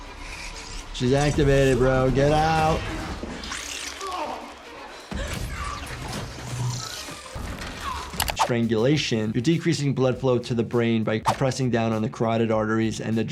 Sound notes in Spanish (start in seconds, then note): 4.0 Hombre con cuadros gimiendo